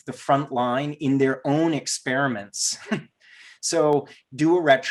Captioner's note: giggles